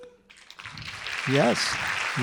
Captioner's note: audience applauding